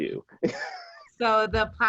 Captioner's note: laughing